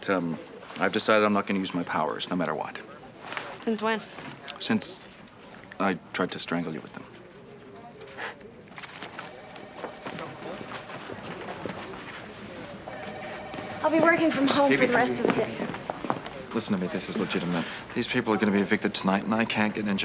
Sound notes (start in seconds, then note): 8.1 sighs; 9.1 phone rings